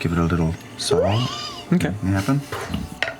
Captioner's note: screeching